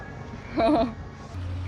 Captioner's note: laughs